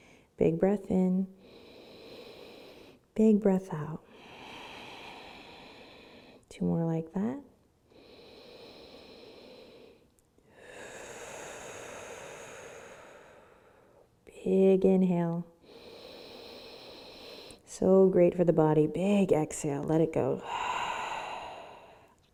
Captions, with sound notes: Big breath in (inhales), big breath out (exhales). Two more like that. (breathes deeply) Big inhale. (inhales) So great for the body, big exhale, let it go. (exhales)